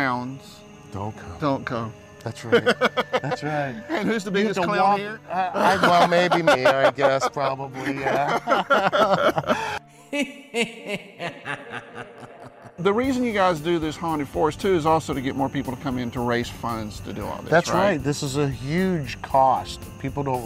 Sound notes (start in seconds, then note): 10.1 evil laughter